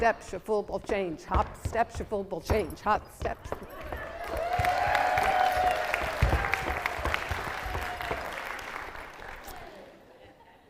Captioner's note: clapping